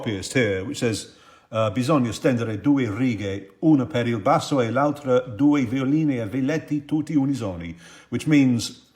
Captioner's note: speaking in Italian